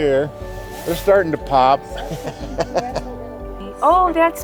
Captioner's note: laughing